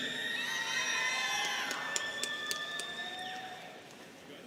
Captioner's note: students cheering